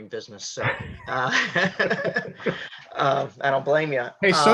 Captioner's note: laughing